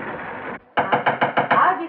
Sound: knock On Door

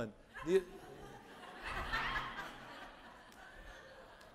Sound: audience laughing

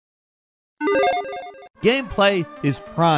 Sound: game bleeping

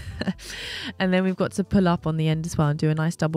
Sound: chuckles

